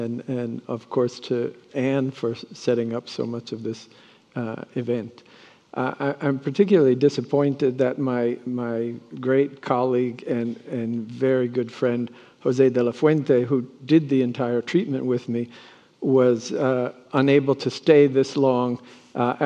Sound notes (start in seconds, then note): none